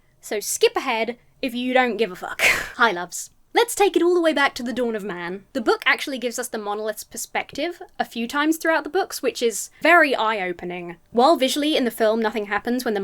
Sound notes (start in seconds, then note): 2.3 chuckles